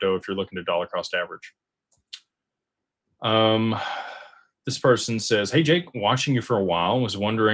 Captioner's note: sighs and gasps